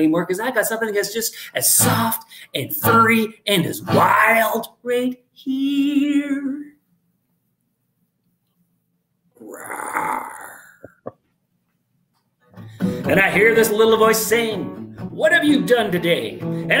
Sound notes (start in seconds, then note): 9.4 roaring; 10.4 laughing